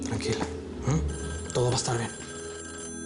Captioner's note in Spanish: Suena el teléfono